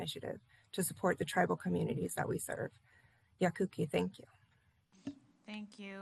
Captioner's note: foreign language